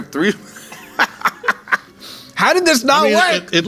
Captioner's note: laughing